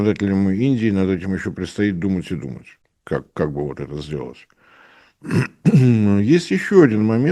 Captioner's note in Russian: откашливается